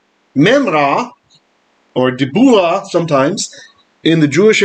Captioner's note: Aramaic